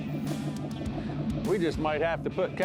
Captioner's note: boat engine chugging